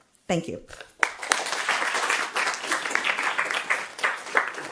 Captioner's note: audience clapping